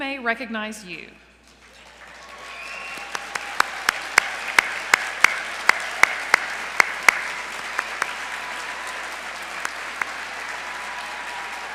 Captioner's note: applause